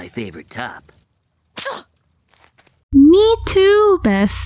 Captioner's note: scoffs